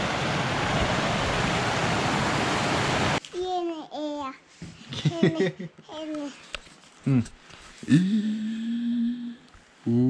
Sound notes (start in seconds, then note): 3.3 baby talk